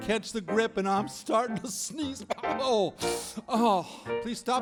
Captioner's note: sneezes